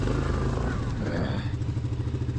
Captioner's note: frustrated grunt